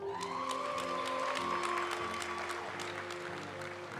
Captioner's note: audience cheering and applauding; graduation music